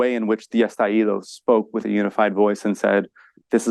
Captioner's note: speaks foreign language